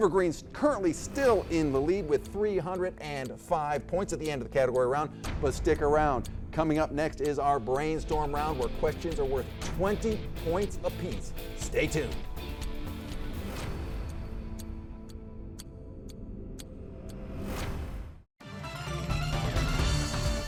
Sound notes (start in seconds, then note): 5.8 clock ticking; 14.3 upbeat music; 18.4 cheerful upbeat music